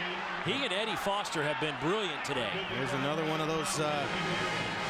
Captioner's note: crowd noise